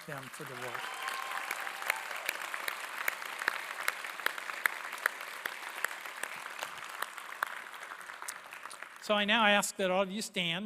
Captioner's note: applause